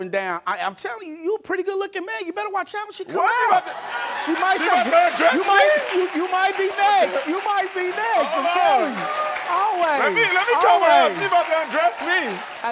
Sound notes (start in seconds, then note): 3.3 Karamo laughs; 3.4 audience laughs